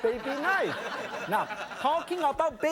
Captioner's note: audience laughing